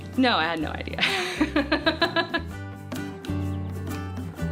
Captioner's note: laughs